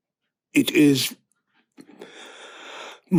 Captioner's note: inhale